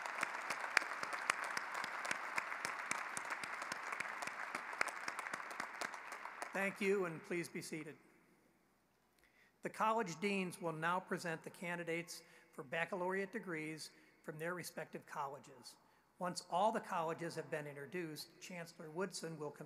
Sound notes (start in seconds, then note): 2.8 applause